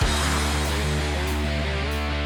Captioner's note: hatch closing